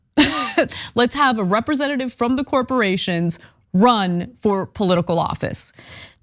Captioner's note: laugh